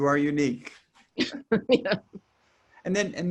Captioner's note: both laugh